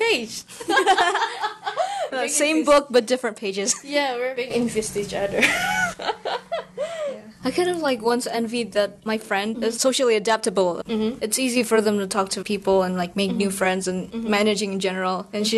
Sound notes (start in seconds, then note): 0.7 blahahahahaha; 5.4 wheeze laughs